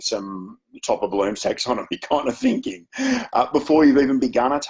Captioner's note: chuckles